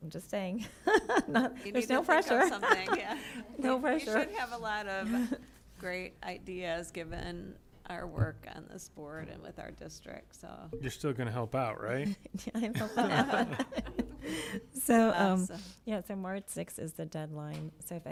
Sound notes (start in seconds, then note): 1.0 laughs; 12.4 laughter